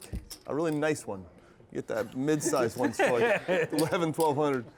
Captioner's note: laugh